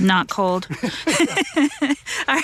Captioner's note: both laugh